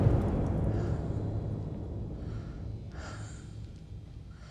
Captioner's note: mother breathes heavily